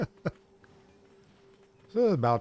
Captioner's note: laughter